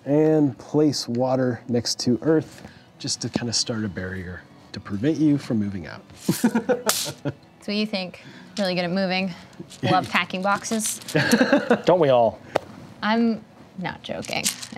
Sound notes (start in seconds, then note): 6.3 laughing; 6.6 bag hitting surface hard; 11.1 laughing